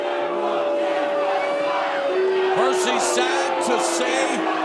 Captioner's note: fans chanting